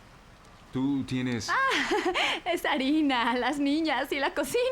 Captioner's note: laughs